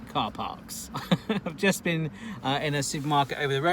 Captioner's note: laughs